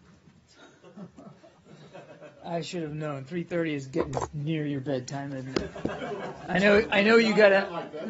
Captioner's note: laughter; laughter